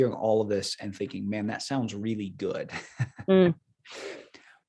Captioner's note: laughing